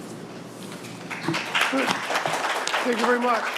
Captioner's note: applause